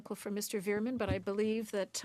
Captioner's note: speaking French